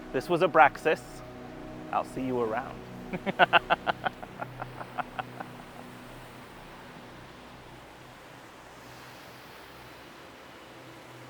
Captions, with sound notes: This was Abraxas. I'll see you around. (mischievous laugh)